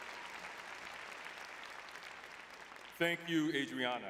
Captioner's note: audience applauding